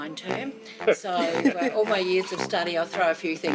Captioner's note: laughs